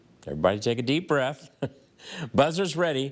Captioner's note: chuckles